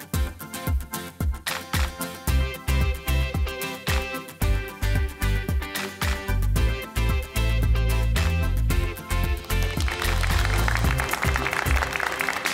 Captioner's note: applause